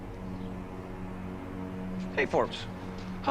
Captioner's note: birds chirping